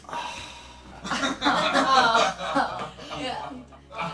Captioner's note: laughing